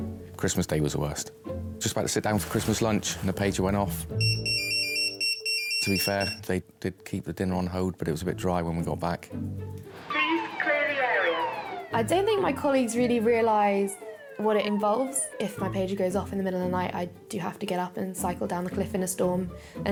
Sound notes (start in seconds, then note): 4.2 pager beeps; 9.9 alarm blares